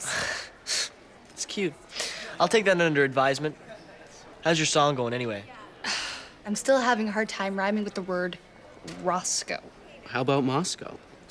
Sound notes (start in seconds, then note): 0.2 laughs; 5.8 sighs